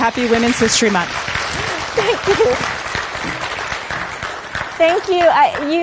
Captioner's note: audience clapping